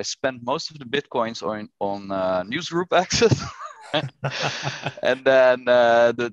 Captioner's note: laughter